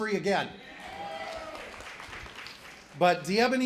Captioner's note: applause